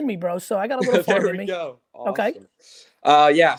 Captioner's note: laughs